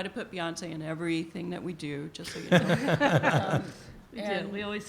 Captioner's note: laughter